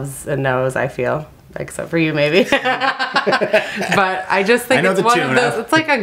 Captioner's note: laughter